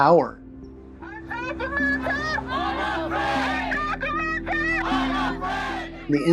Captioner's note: group of people protesting